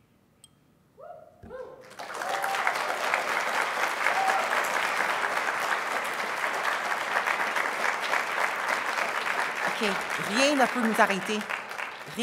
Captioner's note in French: applaudissements